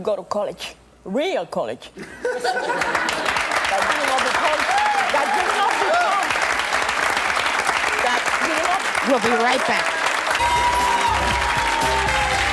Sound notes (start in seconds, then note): 2.1 audience laughs; 2.5 audience applause; 10.4 jazzy music; 11.6 audience applause